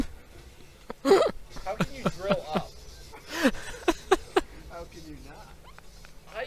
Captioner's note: is still laughing